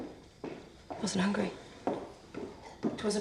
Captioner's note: footsteps